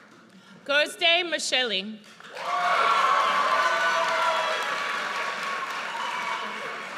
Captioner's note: audience cheers